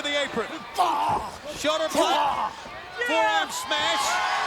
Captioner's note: Liger grunts